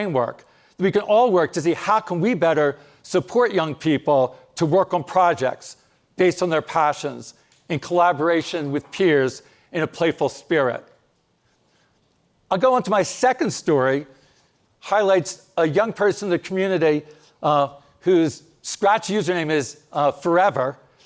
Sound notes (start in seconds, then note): none